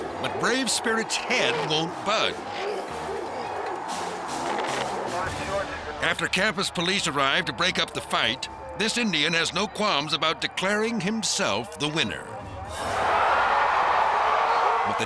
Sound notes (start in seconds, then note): 3.4 crowd shouting; 13.3 crowd cheers